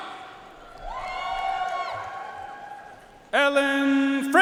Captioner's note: audience cheering and applauding